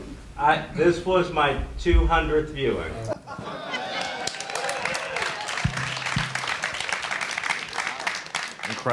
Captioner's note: audience cheers